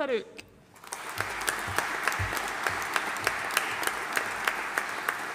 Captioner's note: audience applauding